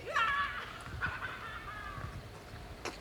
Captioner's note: laughs